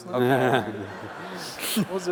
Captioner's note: laughter